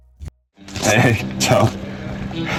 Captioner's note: speaking Italian